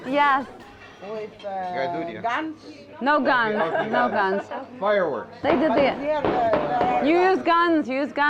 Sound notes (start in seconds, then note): 5.5 sound: Fireworks